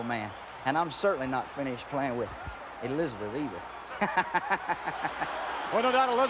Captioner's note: laugh